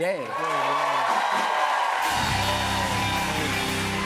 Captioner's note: cheers and applause